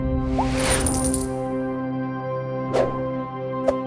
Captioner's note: coins jingling; swooshing; swooshing